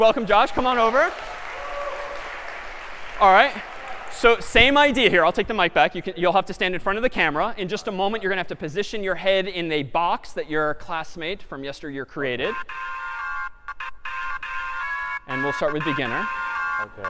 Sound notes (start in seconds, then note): 0.0 applause